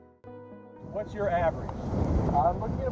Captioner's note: wind fluttering